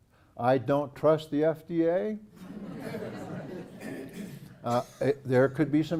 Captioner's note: laugh